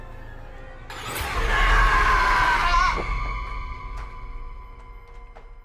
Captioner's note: Jordyn screaming